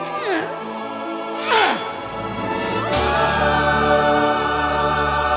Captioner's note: grunting